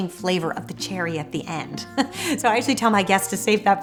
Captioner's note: laughs